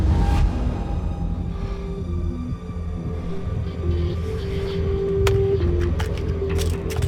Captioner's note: breathing heavily